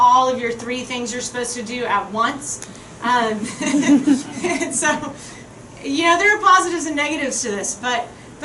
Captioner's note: chuckling